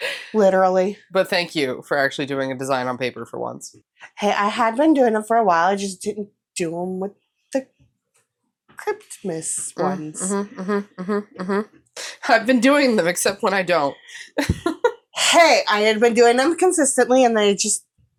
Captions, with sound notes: Literally. But thank you for actually doing a design on paper for once. Hey, I have been doing them for a while. I just didn't do them with the Cryptmas ones. (mmhm, mmhm, mmhm) I've been doing them except when I don't. Hey I had been doing them consistently and they just,